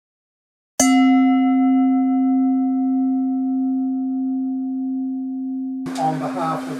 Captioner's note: bell chimes